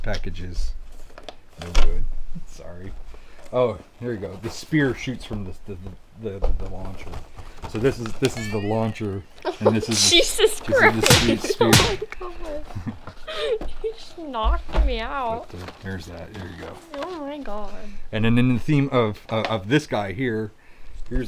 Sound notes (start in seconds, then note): 9.2 pinging sound effect; 10.8 punching sounds